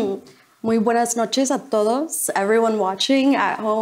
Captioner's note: speaks in foreign language